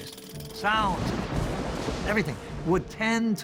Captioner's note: thunder crashing